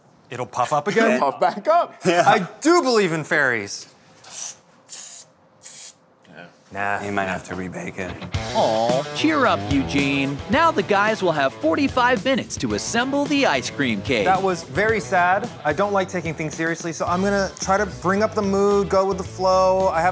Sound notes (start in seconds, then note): 3.9 hissing